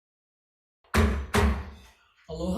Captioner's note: gavel hammers